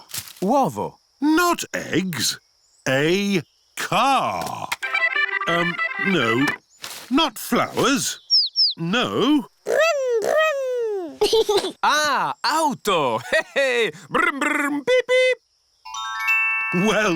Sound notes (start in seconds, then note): 4.7 music on radio; 10.6 giggles